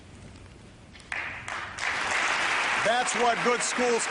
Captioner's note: applause